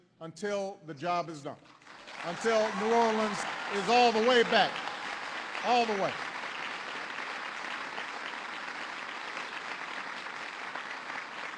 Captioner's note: applause